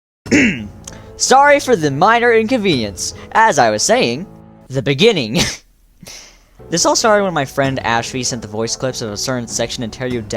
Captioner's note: ahem